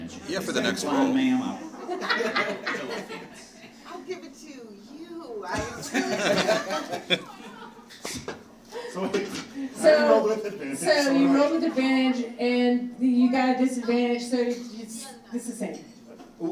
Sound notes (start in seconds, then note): 1.6 audience laughing; 5.6 audience laughing